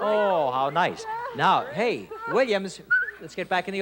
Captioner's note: whistles